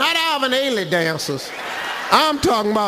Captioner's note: audience laughs